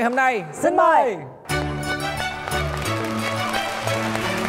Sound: clapping

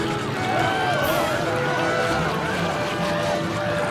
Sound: screaming

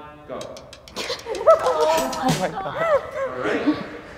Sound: group laughs

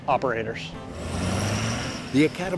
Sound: engine revving

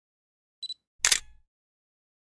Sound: camera beeps and clicks

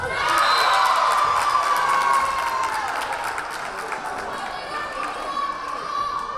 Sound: crowd cheering; whistle blaring

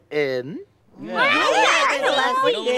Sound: chatter

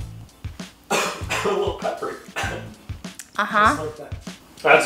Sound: coughs

